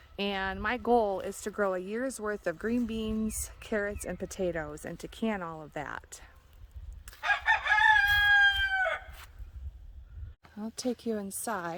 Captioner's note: rooster crows